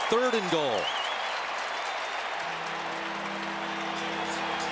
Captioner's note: applause. cheering